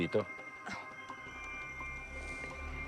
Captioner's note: mercedes chuckles wryly